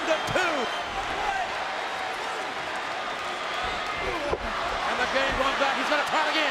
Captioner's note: applause